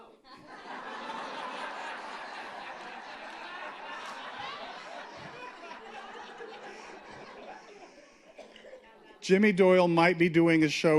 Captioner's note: laughter